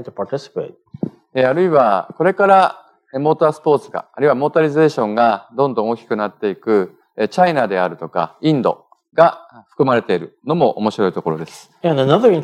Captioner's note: speaking japanese